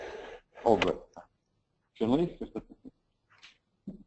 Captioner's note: laugh